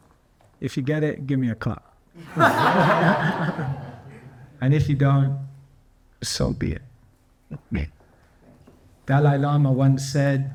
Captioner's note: laughs